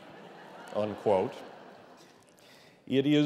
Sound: laughter

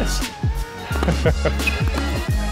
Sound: laughs gently; upbeat music

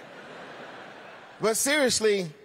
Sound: laughter

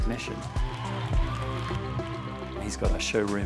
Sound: applause

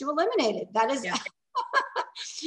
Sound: laughing

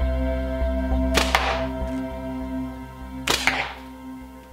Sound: thwack

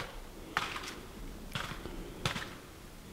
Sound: caller raking a tree

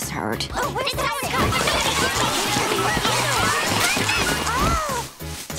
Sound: yelling

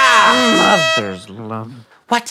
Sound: horn blares

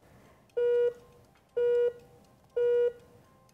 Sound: Blockly beeps

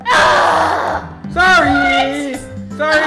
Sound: groans loudly

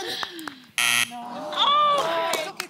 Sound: buzzer

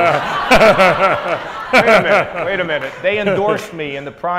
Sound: audience laughs

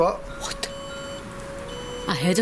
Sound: sensor beeps

